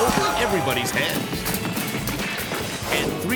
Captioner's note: body thumping; metal clanking